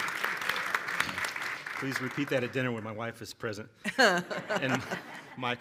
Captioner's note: applause